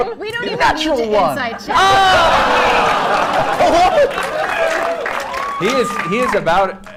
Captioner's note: laughter